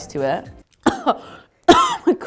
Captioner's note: couging